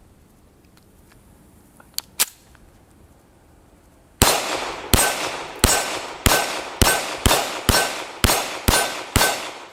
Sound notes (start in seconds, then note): 4.2 gun fires